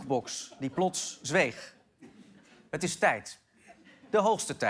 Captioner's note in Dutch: gelach